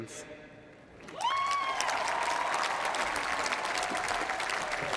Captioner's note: cheers and applause